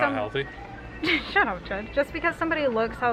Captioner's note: laughs